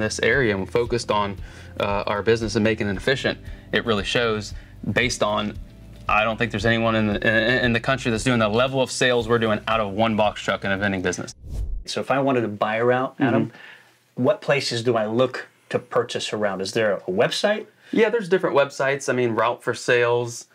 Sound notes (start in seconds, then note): 11.3 air swooshing